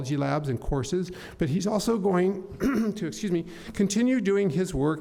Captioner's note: clears throat